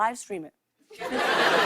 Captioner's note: laughter